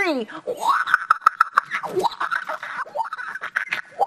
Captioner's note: chattering